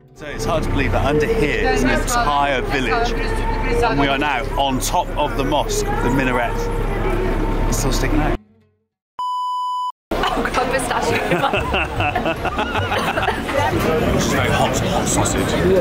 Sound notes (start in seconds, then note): 11.0 coughing